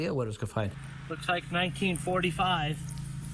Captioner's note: beepin